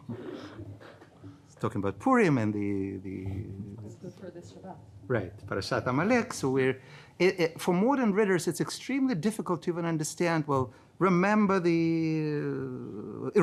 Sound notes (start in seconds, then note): 0.1 chuckles; 4.4 speaking in foreign language